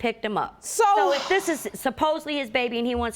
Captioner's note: sighs